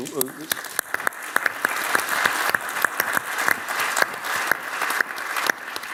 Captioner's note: applause